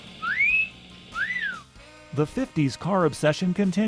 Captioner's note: kid whistling